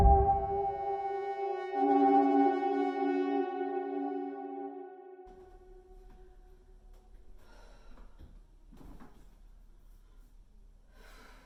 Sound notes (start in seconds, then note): 7.8 Leona sighs